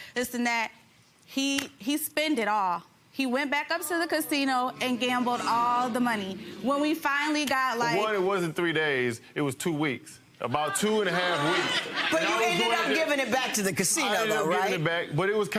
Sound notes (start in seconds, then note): 4.4 crowd moaning; 10.7 crowd laughs